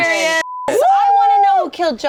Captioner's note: beep; cheers